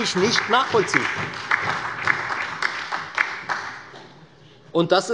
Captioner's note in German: Beifall bei der FDP, der SPD und der LINKEN